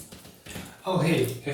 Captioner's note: shower Running